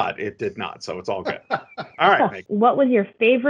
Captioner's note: laughing